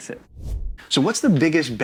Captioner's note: air whooshing